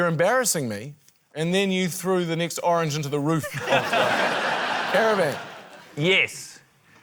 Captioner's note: laughter